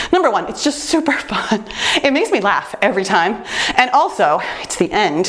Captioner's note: none